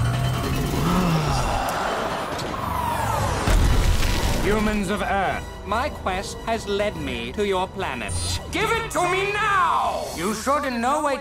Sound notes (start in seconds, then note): 2.7 gasps